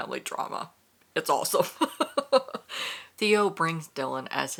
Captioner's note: laughs